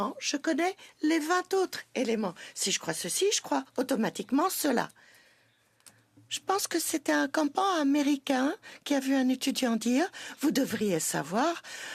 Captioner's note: speaking French